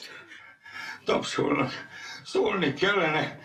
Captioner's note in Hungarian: Liszt zihálva